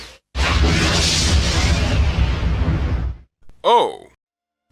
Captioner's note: explosion